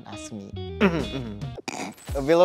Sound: clears throat; snorts

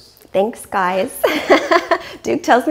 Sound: laughs

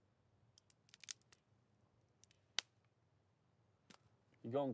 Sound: wood cracking

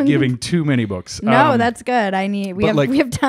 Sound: laughs

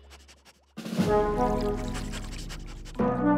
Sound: sniffing

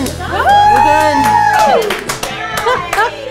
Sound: cheering

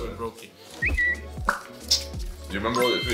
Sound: graphics whooshing and whistling

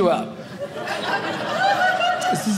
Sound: audience laughing

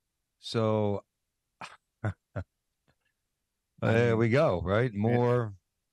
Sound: laughing

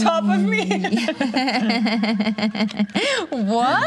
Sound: imitating German accent; laughter

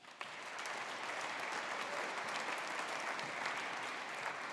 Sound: audience applauding

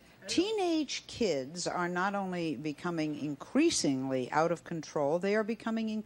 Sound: none

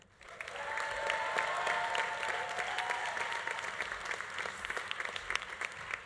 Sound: audience applauding; audience cheering

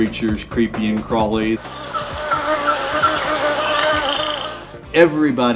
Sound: sound of insects

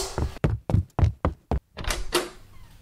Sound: walking away footsteps sound; door opens

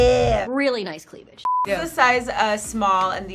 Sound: beep

